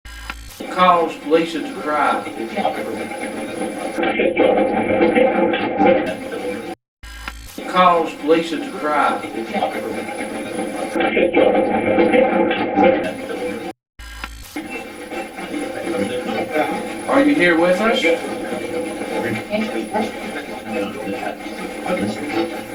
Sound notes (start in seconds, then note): 0.6 static fizzing; 2.8 overlapping static playback transmitting; 14.0 static fizzing; 14.9 static playback transmitting; 18.8 static playback transmitting